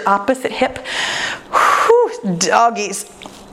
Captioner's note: exhales